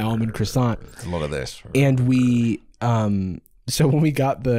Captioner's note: growling